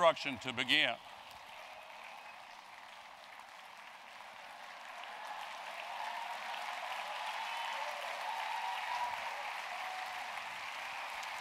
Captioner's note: applause